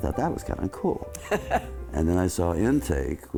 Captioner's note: laughs